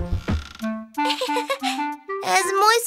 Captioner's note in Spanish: Risas